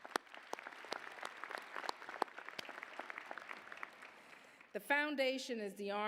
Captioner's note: applause